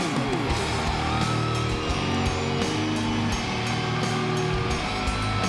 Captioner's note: audience continues cheering